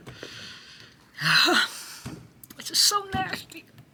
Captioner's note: Jasmine groaning